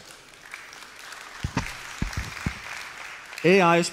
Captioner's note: applause